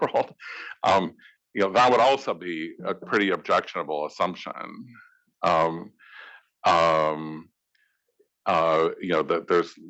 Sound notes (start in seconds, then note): 0.0 laugh